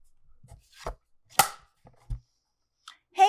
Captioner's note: clapperboard snaps